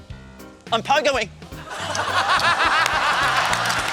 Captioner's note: laughter, applause; whistle blows